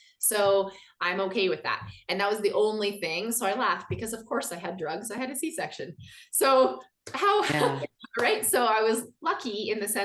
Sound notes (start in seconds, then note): 7.4 laughs